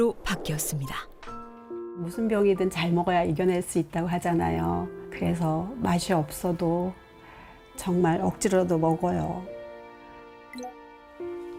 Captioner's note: voiceover